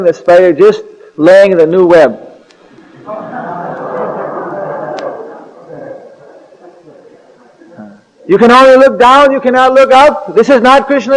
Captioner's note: laughter